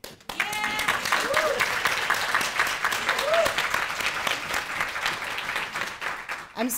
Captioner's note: audience applauding; cheering